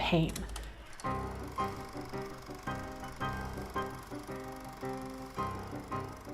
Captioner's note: projector whirring; bouncy music